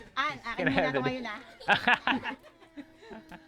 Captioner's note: laughs